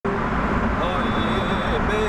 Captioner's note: car whirling